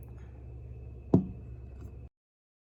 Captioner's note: mug hits table softly